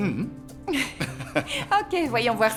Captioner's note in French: rires